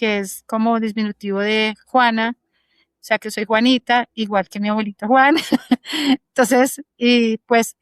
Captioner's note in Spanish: risas